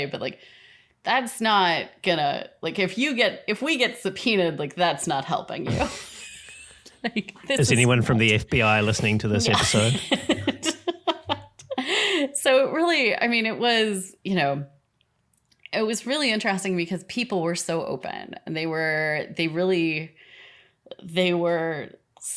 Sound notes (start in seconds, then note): 9.9 laughing